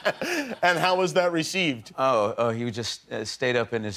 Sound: laughter

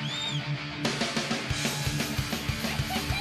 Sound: cheering

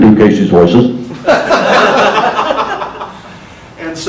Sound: audience laughter

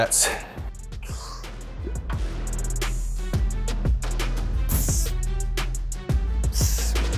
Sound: upbeat music; sighing heavily

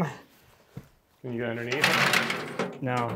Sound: bench rattling

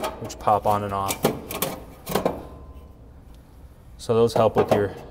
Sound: grill rattling

